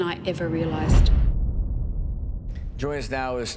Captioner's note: deep boom tone